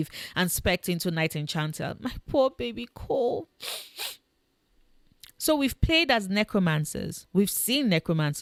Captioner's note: sniff